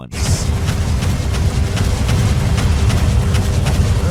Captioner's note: cannons firing